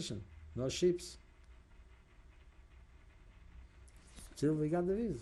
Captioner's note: pauses for 3 seconds